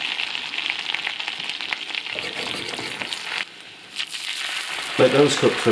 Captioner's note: sizzling